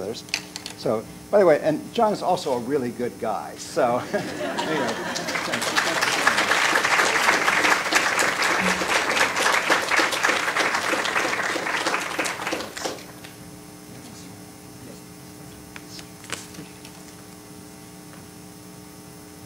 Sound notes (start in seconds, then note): 6.2 applause; 6.2 laughter